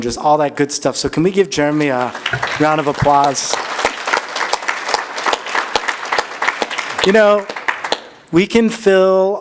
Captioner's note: applause